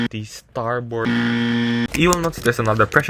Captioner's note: extremely loud incorrect buzzer